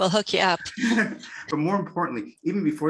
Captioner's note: laughs